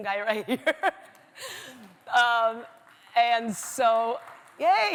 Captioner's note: laughs